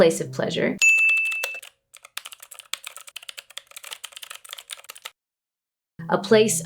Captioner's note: sharp ding; keyboard typing